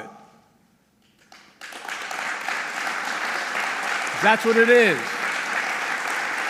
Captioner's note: applause